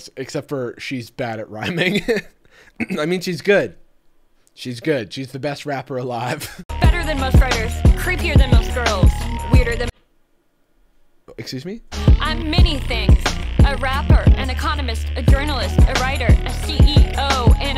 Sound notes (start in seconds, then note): 1.6 chuckling; 2.8 clears throat